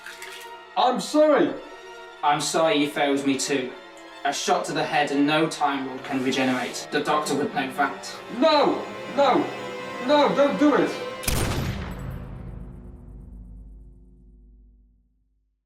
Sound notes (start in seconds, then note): 11.2 gunshot